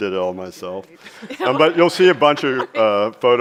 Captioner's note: chuckles